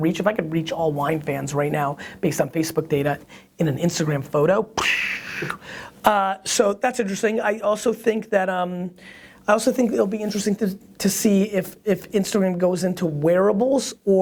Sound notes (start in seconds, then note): 4.6 releasing air